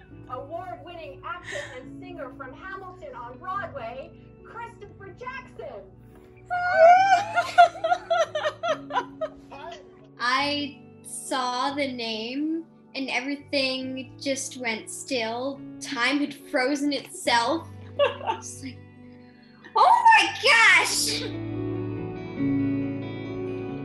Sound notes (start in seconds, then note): 6.8 loud cheering and laughing; 17.8 laughs